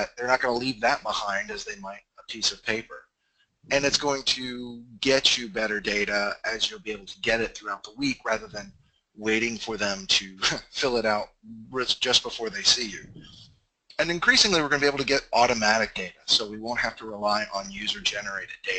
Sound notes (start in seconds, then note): 9.2 hah